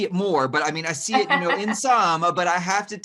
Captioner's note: laughing